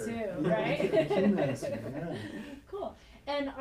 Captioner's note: laughing